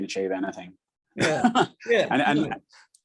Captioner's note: laughs